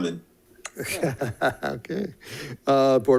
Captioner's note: laughs